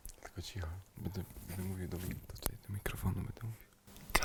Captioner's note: whispers